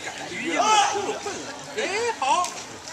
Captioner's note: yelling